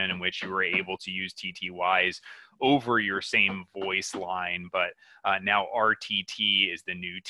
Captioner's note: banging noise